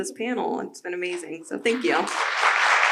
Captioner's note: audience applause